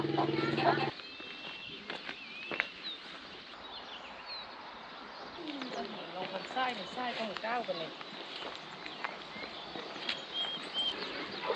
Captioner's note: laughs